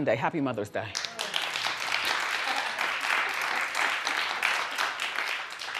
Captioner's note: audience applauds